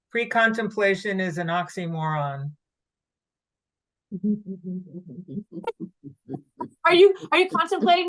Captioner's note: laughs